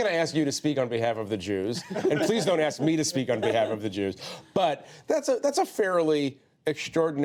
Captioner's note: laughter